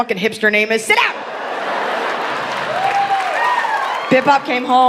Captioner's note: audience laughing